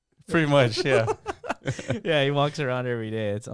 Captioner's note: laughing